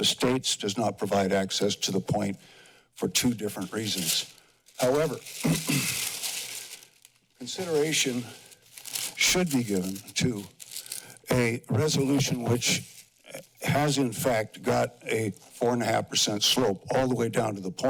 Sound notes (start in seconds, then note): 5.3 clears throat; 6.4 paper crumples